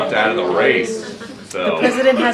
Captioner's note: laughter